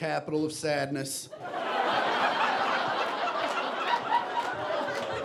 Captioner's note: audience laughing